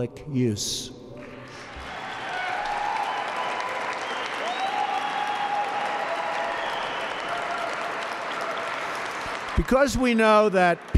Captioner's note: applause